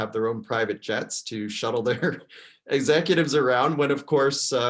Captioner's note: laughs